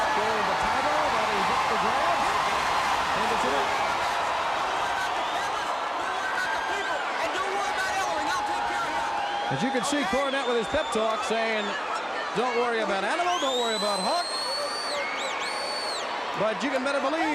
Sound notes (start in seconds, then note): 0.1 crowd cheering; 4.7 crowd cheering